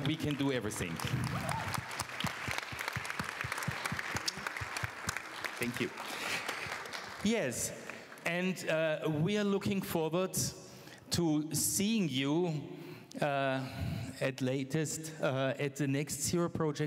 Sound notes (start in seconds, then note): 6.6 applause